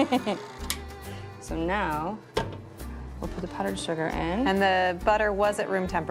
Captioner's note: chuckles